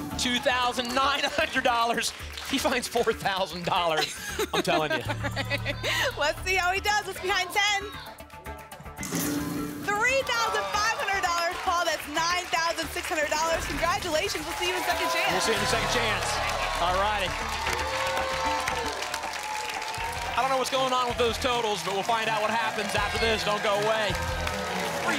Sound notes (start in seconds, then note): 3.9 laughs; 17.3 applause and cheering